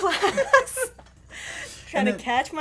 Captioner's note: laughter